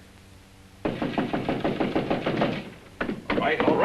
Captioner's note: knocking